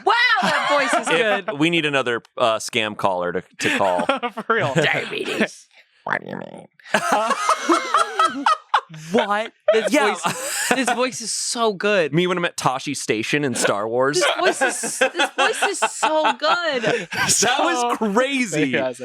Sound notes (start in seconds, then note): 6.9 laughs